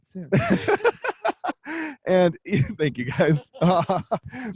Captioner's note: laughs